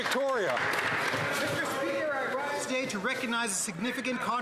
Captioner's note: some Applause